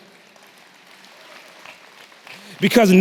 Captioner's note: applause